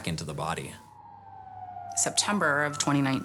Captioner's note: sirens blaring